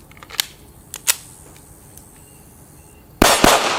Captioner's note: click; gunshots